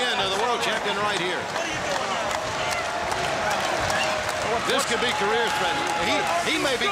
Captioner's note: crowd chatter